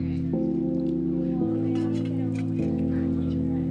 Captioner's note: indistinct chatter